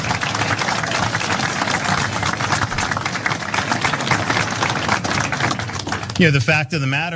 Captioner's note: applause